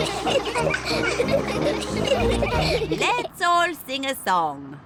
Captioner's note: all giggle